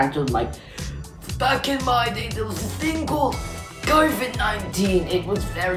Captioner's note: in deep voice